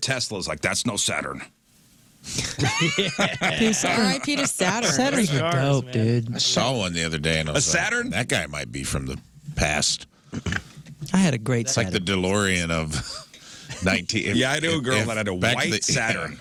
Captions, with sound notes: Tesla is like, that's no Saturn. (Laughing) All right, Peter, Saturn. Saturn. No, dude. I saw one the other day and I was like, that guy might be from the past. I had a great Saturn. It's like the DeLorean of 19. Yeah, I know a girl that had a white Saturn.